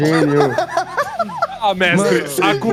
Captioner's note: laughter